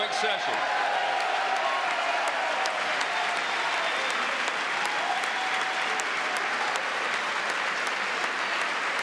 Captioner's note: applause